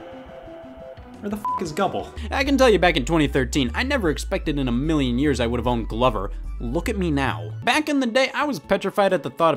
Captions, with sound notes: Where the (beep) is Gubble? And I can tell you back in 2013, I never expected in a million years, I would have owned "Glover." Look at me now. Back in the day, I was petrified at the thought